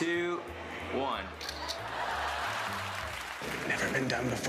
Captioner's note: camera shutter clicks